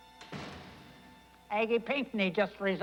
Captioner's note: door slams